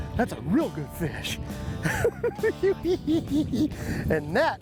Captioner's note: laughs